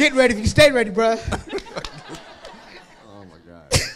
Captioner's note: crowd laughs